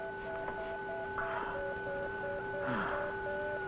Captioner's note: breathing heavily